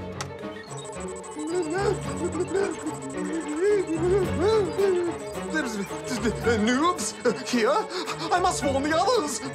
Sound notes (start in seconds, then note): 3.1 mutters strangely